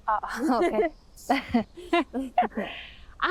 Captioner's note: both laughing